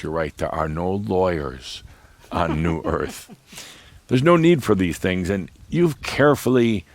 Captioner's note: giggles